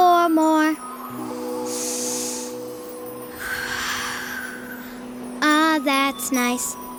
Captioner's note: inhale: 1-2-3-4 chimes, exhale: 1-2-3-4 chimes